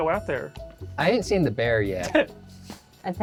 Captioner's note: laughs